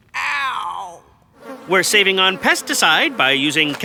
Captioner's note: flies buzzing